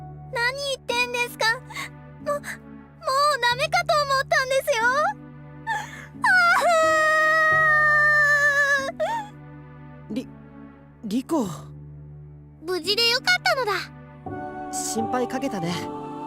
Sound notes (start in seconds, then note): 5.6 sob